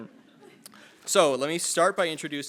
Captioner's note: attendees laughing